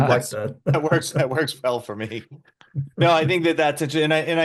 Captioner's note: laughs